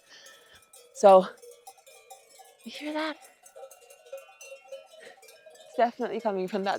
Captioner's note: sheep bells clanging